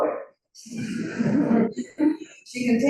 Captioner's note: audience chuckles